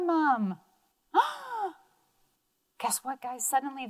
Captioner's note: gasps